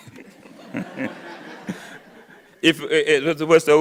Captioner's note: audience laughing; laughs